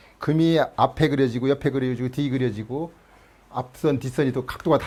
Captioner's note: none